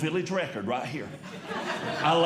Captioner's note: audience Laughing